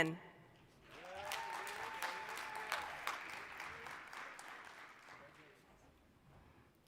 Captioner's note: applause